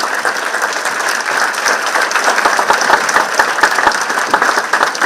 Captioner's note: participants clapping